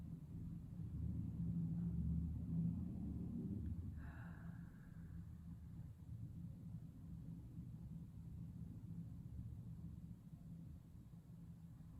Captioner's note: breathing